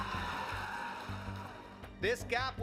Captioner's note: cheering